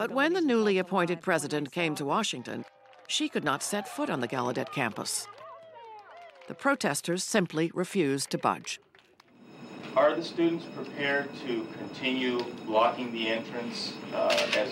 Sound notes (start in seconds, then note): 9.3 fire alarm ringing